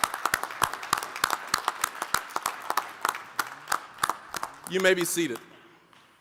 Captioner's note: applause, cheering; applause